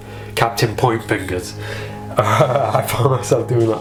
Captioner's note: chuckles